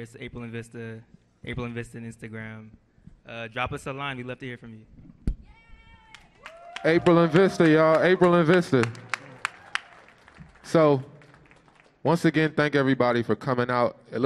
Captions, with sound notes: It's April + Vista, April + Vista on Instagram. Drop us a line, we'd love to hear from you. (audience cheers) - April + VISTA, y'all. April + VISTA. (audience applauding) So, once again, thank everybody for coming out.